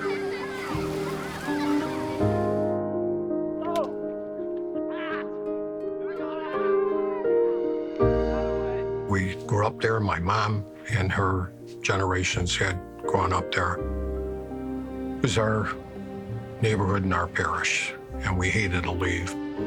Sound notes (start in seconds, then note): 0.0 children laughing; 4.5 ball thuds; 6.0 people yelling